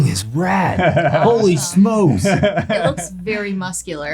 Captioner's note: laughing